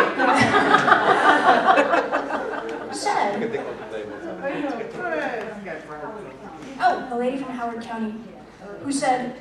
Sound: laughter

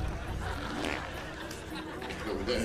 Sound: snoring continues; flatulence; audience laughter

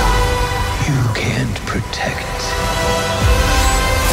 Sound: male Voice; orchestra music intensifies

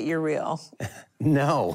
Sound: laughter

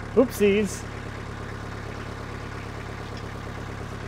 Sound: tractor rumbles

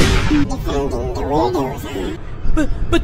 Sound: alien noises

